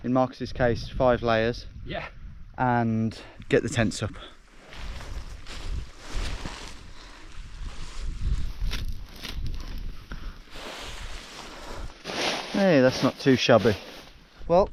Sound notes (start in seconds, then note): 7.2 wind whooshing; 8.2 grass ripping